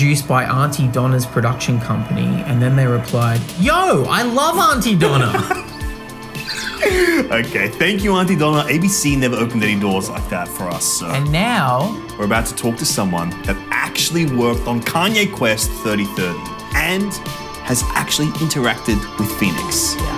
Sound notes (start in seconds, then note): 5.0 laughing; 5.3 electronic music